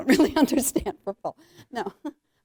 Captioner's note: chuckling